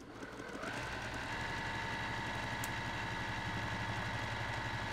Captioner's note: sewing machine humming